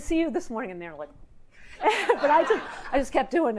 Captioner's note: laughs